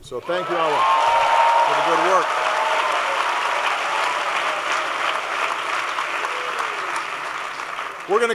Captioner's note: applause